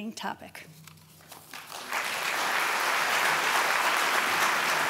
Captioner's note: applause